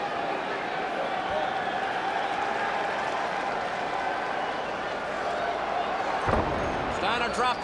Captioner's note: crowd chatter